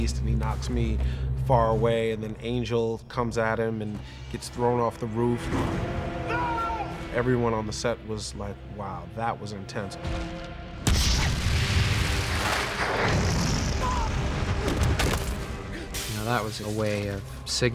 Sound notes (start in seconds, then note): 10.8 gunshots